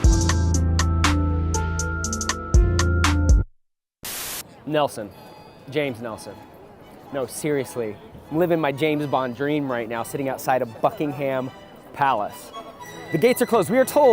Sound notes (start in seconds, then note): 0.0 upbeat music; 4.0 static